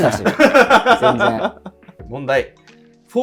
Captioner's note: laughing